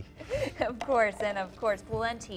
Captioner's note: laughter